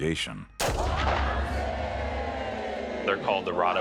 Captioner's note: gunshot fires; crowd chants